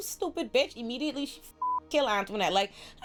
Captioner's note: beep